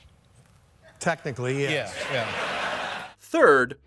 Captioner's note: audience laughter